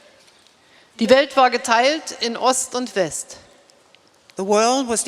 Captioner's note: speaking in German